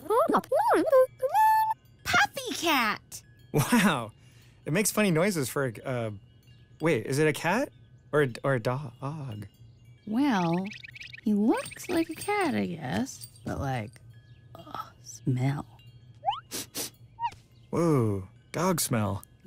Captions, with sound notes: PuppyCat!! (laughs) Wow...it makes funny noises for a c--uhh. Wait, is it a cat? Or a d--oog? Well...he looks like a cat I guess but, like, smell. (sniffs) Whoa, dog smell.